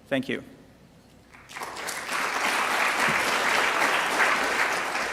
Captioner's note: applause